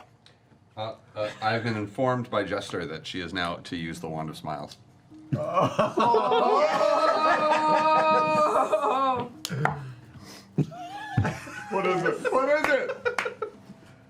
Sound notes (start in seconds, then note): 4.9 cheering; 12.7 laughter